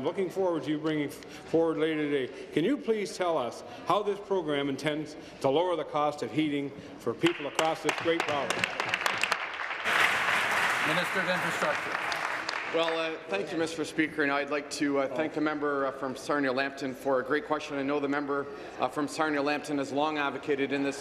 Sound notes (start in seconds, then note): 12.1 applause